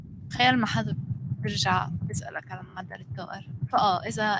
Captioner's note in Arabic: لغة أجنبية